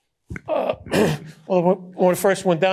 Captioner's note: clears throat